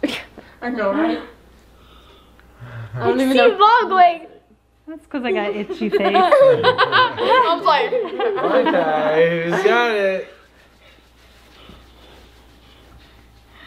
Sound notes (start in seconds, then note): 5.7 laughs